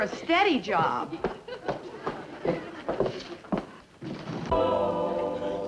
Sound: heels clip-clopping on floor

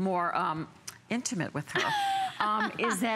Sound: laughter

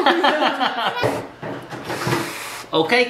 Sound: laughing

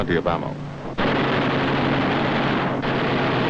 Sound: gunfire

